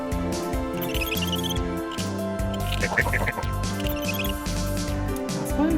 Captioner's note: screwing on noise